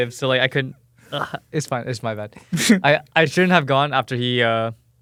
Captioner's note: laughs